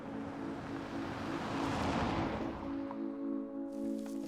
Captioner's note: car engine revving